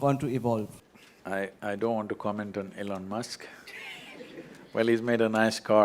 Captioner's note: Laughs